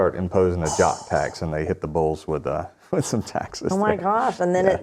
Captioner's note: laughs